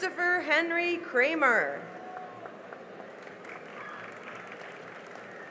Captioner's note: cheering and applause